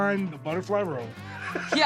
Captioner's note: laughs